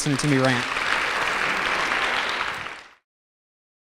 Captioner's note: applause